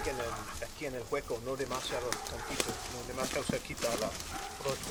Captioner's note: speaking Spanish